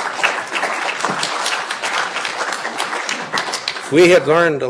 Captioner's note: applause